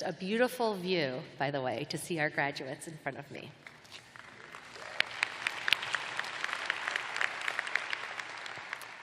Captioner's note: applause